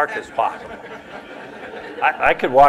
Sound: laughter

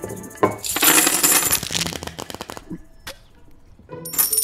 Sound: money clanking; cards shuffling

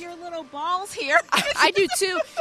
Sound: laughter

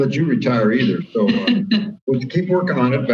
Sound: laughs

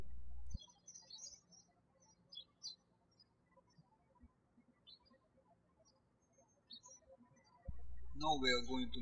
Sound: birds chirping

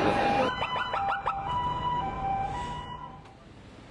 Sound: sirens

